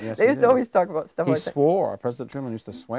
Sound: chuckling

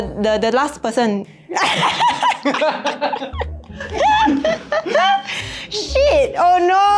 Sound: laughs

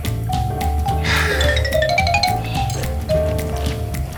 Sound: gobbling down

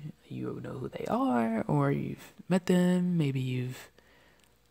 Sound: none

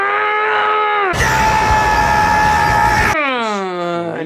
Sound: scream

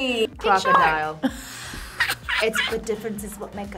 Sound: React laughs

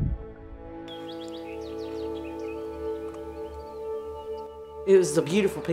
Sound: birds chirping

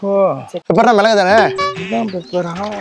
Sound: in tamil

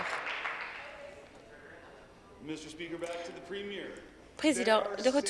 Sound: applause

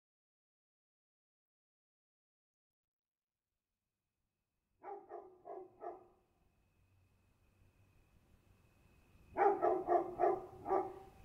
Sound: sound of dog, crickets, human movements, etc

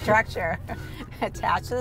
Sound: chuckles

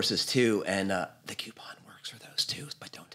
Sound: whispering

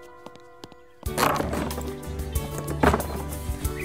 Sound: door creaks; pleasant instrumental music

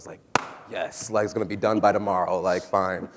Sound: claps hands

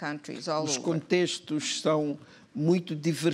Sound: speaking portuguese

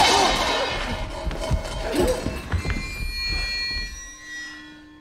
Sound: crash

